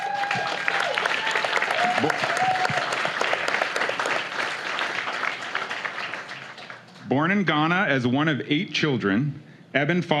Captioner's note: applause